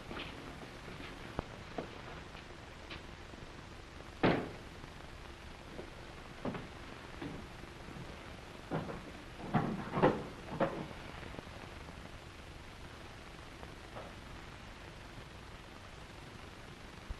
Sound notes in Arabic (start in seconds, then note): none